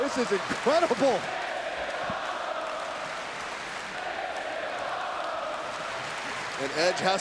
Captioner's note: applause